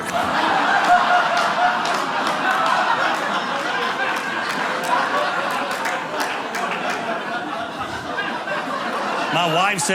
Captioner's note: audience laughing